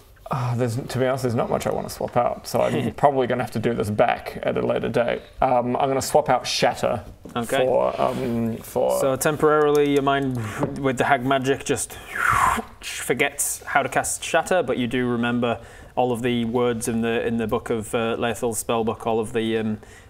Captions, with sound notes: Ah there's to be honest there's not much I want to swap out so I'm probably gonna have to do this back at a later date I'm gonna swap out shatter Okay for um for so temporarily your mind with the hag magic just *zwoooph* just forgets how to cast shatter but you do remember all of the words in the book of uh Laethil's spellbook all of the